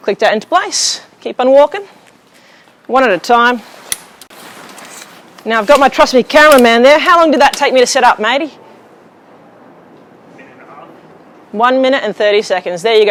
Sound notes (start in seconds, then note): 3.8 pole clicks